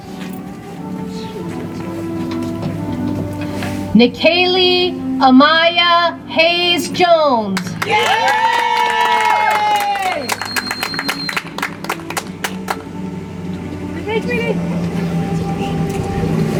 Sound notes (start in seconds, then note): 11.4 audience applauds